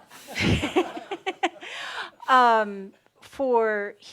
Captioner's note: she chuckles